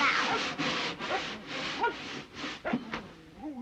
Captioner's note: jack barking